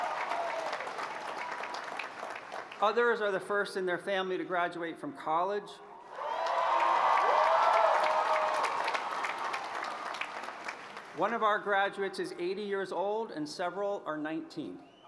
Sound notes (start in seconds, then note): 9.9 applause